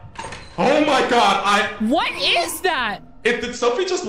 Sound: gasps

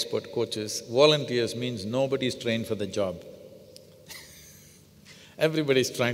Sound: laughs

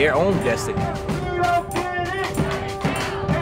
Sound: chanting

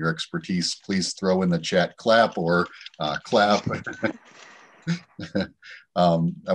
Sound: chuckles

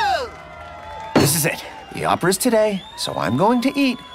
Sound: cheering

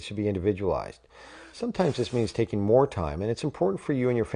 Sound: deep breath; blows

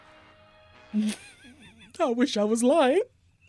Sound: laughs

